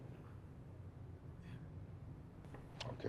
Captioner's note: whispers